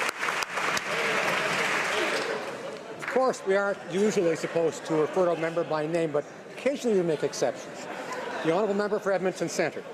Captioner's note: applause